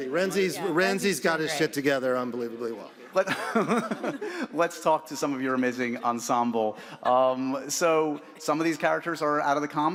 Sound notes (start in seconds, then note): 3.2 laughs